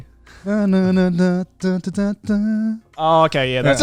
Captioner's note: blabbering